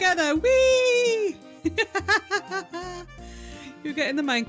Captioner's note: laughing